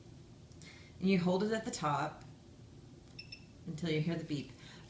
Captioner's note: device beeps